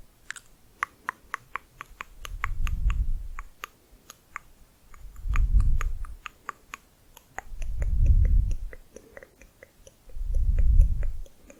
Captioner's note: tongue clicking